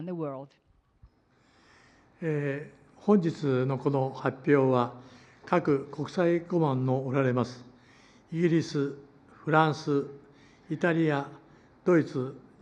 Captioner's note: foreign language